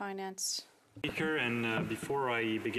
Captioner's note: speaking French